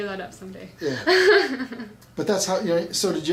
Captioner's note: laughs